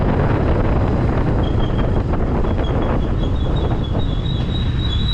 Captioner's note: brake screeching; brake screeching intensifies lmao